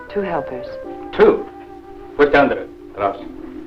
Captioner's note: speaking in foreign language